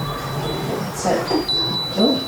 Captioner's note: knock sound